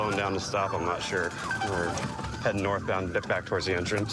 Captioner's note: sirens blaring